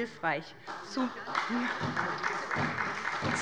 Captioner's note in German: Beifall bei der SPD